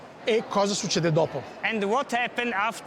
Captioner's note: speaks in Italian